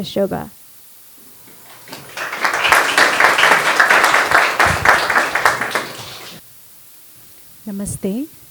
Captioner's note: applause